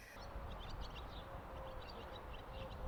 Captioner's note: birds singing